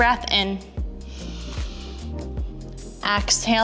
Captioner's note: inhaling